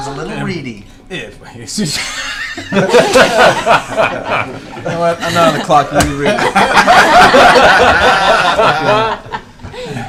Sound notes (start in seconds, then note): 2.0 laughter